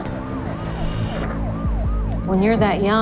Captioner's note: siren blares